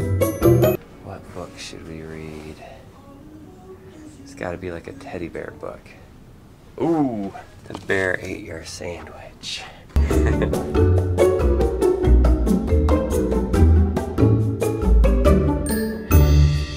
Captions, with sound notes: - What book should we read? It's gotta be like a teddy bear book. Ooh, The Bear Ate Your Sandwich. (chuckling) (playful music)